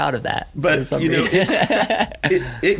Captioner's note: laughing